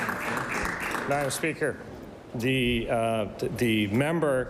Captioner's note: some Applause